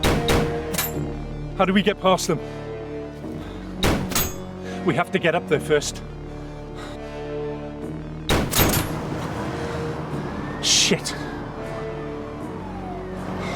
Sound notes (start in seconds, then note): 8.3 guns firing; 11.5 sirens wailing